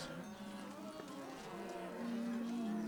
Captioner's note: cows mooing